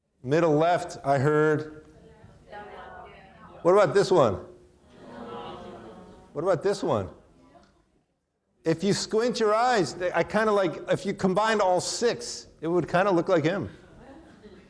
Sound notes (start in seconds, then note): 1.9 audience chattering off microphone